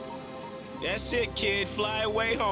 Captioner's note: beeping